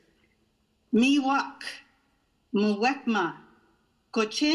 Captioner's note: non-english speech